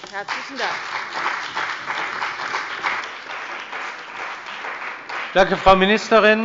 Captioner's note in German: Beifall bei der CDU und dem BÜNDNIS 90/DIE GRÜNEN